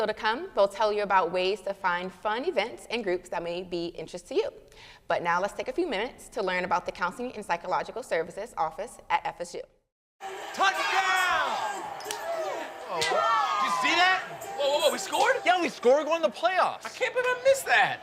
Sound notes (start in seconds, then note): 10.8 crowd